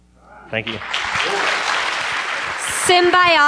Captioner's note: applause